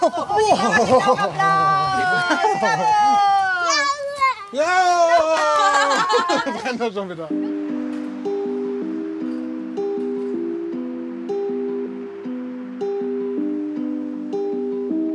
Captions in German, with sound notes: Und die Mama kriegt auch Applaus. Bravooo! Ja! (Sie jubeln und lachen.) (Ruhige Musik)